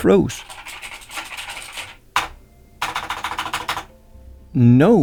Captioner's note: frantic keyboard clicks